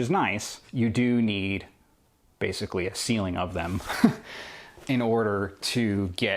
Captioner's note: laughs